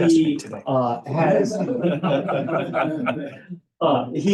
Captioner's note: laughter